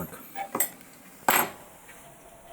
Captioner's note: clattering